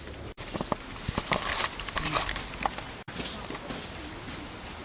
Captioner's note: footsteps